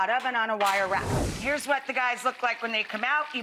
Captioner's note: air whooshing